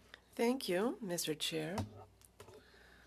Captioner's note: speaking French